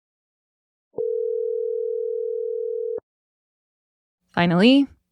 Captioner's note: phone ring